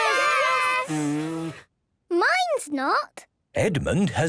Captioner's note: blows; blowing, fluttering